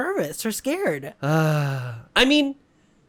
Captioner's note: sigh